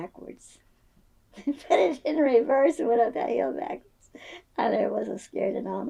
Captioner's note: laughs